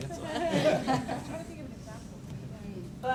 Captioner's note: audience laughs